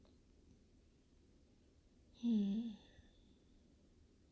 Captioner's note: content sigh